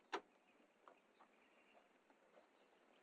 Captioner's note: birds chirping